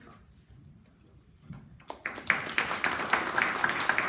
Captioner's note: clapping